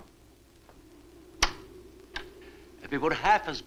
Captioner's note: lock clacks